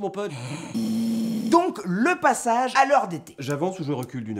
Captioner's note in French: raclement de gorge